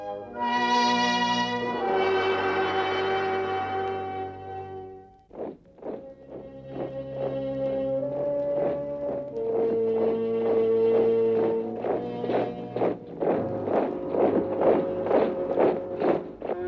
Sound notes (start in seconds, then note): 0.1 dramatic music; 5.4 marching